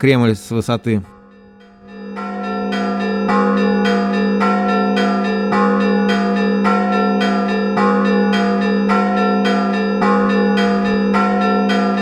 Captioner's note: ringing bells